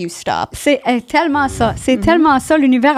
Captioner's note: in french